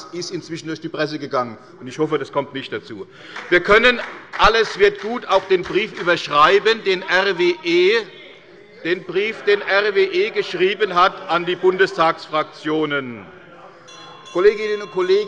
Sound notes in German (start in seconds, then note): 3.2 Beifall bei der CDU und dem BÜNDNIS 90/DIE GRÜNEN